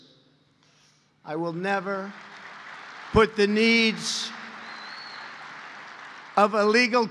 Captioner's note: applause